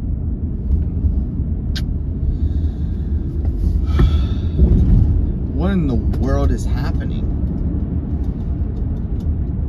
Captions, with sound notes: [inhales, exhales] What in the world is happening?